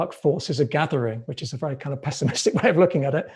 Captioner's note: laughs